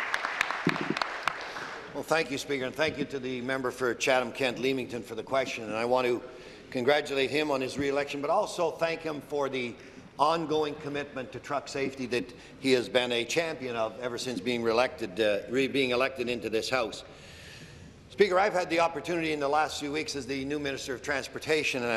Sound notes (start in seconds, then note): 0.0 applause